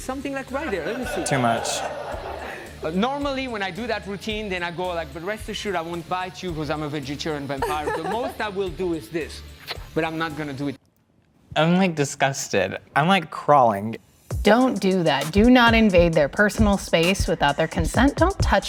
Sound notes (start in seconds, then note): 3.6 audience laughing